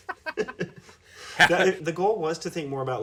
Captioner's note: loud laughing